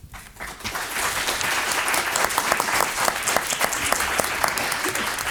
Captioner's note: applauding